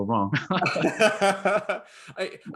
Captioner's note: laughing